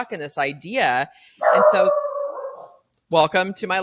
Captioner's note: dog barking